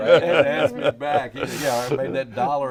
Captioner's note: laughing